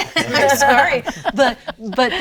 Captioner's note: laughs